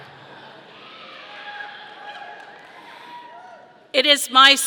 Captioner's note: people cheering